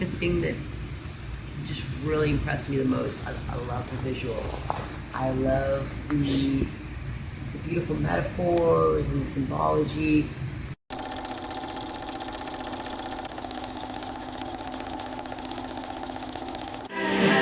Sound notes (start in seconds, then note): 10.9 projector playing sound